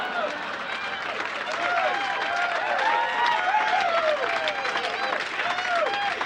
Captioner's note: audience cheering approvingly